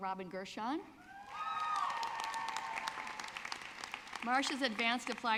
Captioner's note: audience clapping